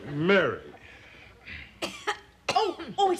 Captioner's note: coughs